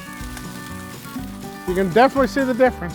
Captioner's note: skillet sizzles